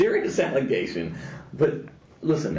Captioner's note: laughing